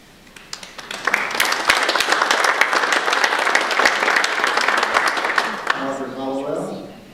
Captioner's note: audience applause